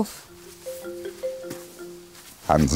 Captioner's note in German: Handyklingeln